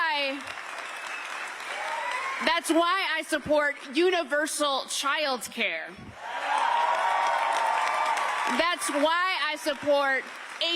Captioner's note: cheers and applause